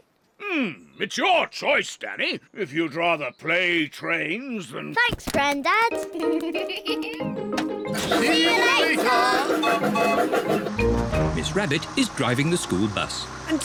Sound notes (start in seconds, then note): 5.9 laughs; 9.4 toots whistle